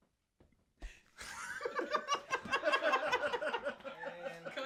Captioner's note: all laughing